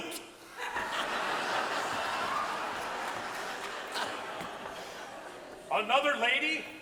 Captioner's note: audience laughs